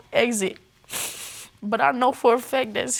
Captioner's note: sniffles